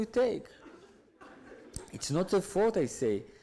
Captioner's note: audience laughs